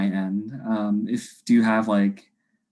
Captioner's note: laughs